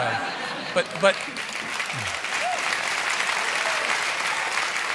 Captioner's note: applause